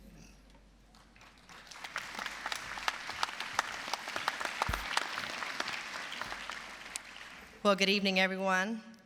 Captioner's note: applause